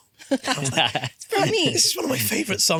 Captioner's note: laughing